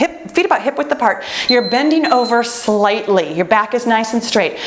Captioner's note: timer beeps